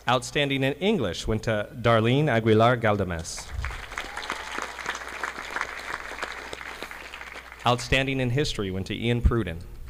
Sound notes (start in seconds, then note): 3.4 audience applauding